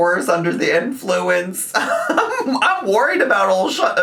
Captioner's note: laughs